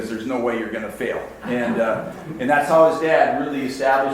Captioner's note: audience laughs